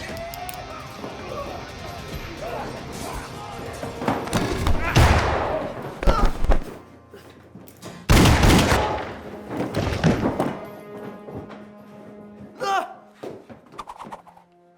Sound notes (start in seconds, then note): 4.2 chair thudding; 4.3 gunfire echoing; 8.1 gunfire echoing; 12.6 bar patron groaning; 13.1 pistol swooshing